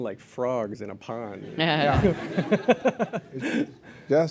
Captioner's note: laughter